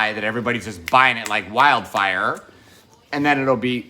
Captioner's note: snapping fingers